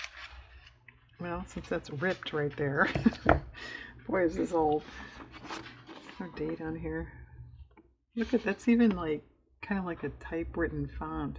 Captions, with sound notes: well since that's ripped right there (laughs)-- boy is this old no date on here look at that's, even like kind of like a typewritten font